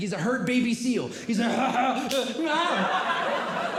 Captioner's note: groaning; audience Laughing